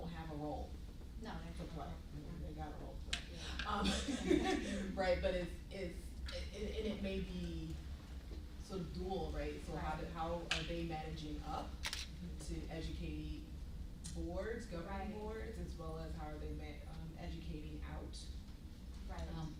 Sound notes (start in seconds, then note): 3.8 laughs